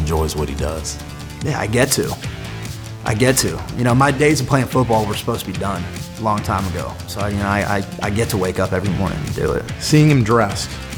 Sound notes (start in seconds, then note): none